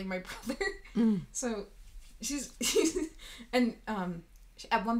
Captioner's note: laughing